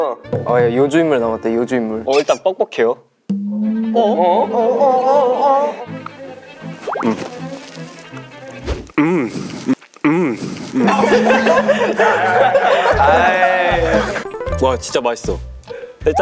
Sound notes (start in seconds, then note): 10.8 unintentionally shared his breathing